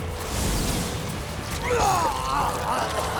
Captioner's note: vomiting